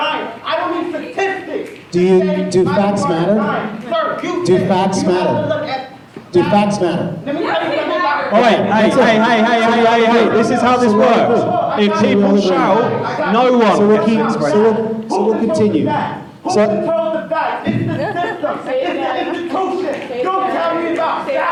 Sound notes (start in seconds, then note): 7.7 shouting